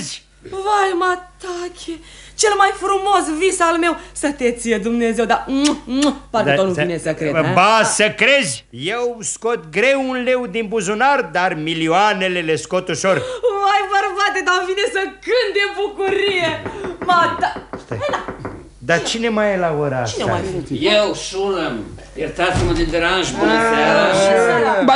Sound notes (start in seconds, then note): 15.9 knocking on the door